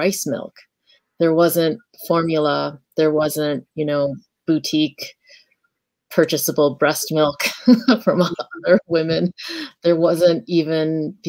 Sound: laughs

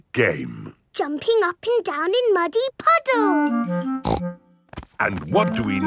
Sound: snorts

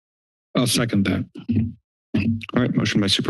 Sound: mic thumps

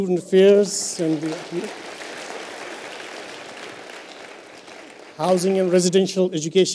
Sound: applause

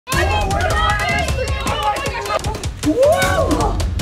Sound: all screaming

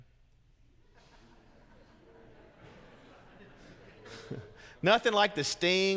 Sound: congregants laugh

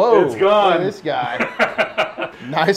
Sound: laughs

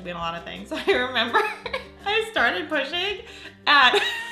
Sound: laughing

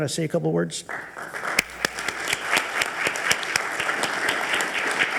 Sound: audience applauding

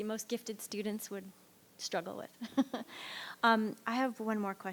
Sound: laughs

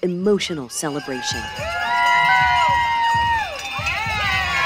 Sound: crowd cheers

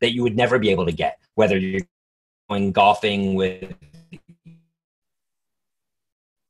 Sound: static

